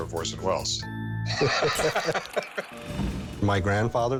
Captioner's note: both laughing